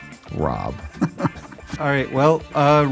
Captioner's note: laughs